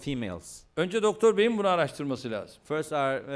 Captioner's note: non-english speech